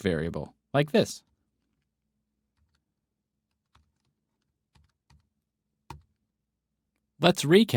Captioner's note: typing